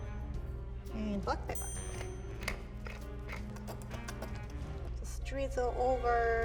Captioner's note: pepper mill grinds